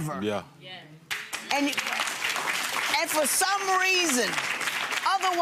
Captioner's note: applauding